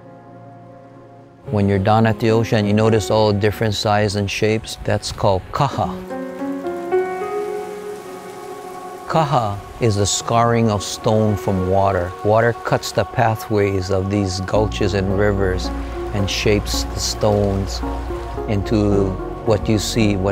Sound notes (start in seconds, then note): 5.3 speaks foreign language; 9.2 speaks foreign language